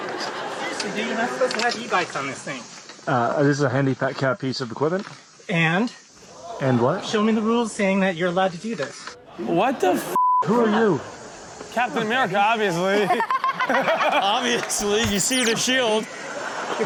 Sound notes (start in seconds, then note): 0.0 audience laughs; 6.4 audience gasps; 10.1 beep; 12.8 Chanel and audience laugh